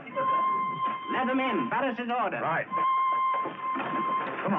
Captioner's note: people chattering